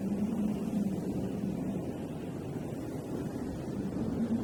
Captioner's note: wind blowing